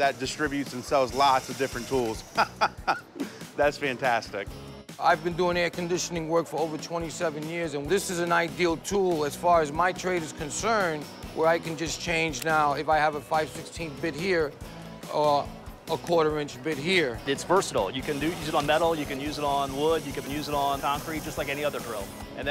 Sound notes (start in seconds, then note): 2.3 laughs